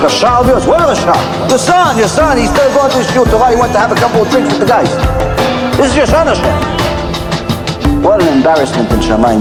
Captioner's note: hebrew